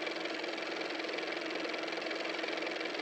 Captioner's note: car motor